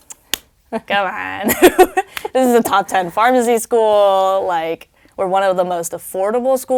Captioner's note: laugh